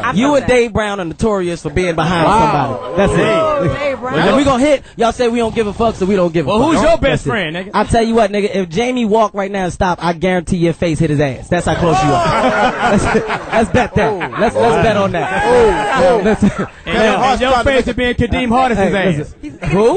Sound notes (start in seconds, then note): 2.8 all gasp; 11.7 all cheer